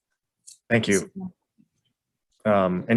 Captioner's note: none